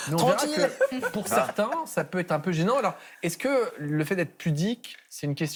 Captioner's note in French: rires